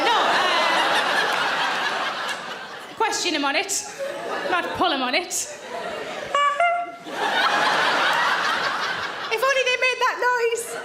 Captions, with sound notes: No! (audience laughing loudly) Question him on it, not pull him on it. (mimics clown horn tooting) (audience laughing loudly) If only they made that noise.